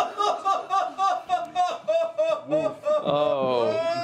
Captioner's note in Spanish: risas